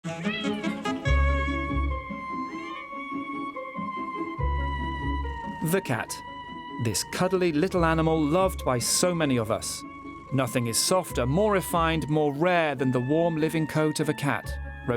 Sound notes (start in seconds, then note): 0.1 cat meows; 0.3 upbeat music